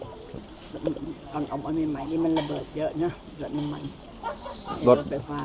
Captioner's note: in Thai